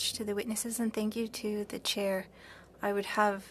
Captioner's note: speaking French